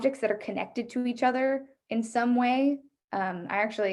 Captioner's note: none